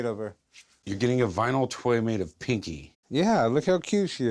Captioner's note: none